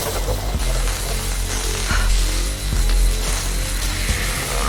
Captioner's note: electric static sound